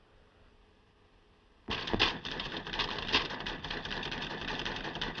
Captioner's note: typing